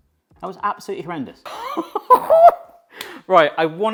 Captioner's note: laughs